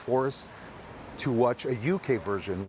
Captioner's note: speaking French